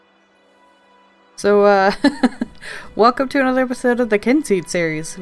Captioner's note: laughs